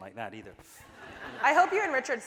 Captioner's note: audience laughing